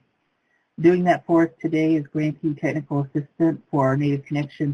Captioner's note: voice muffled